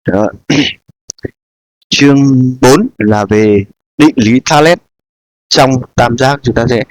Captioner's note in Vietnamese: hắng giọng